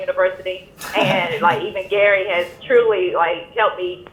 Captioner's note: laughs